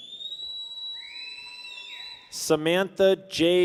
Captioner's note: people whistle